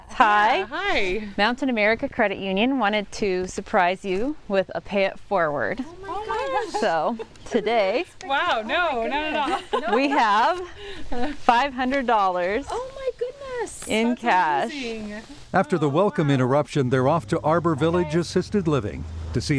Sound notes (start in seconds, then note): 9.0 laughing